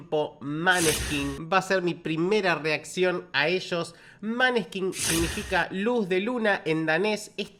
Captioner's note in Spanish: resoplido